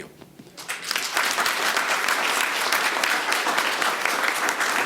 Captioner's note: audience applauding